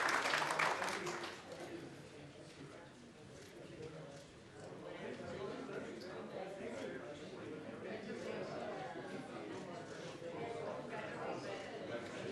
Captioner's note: applause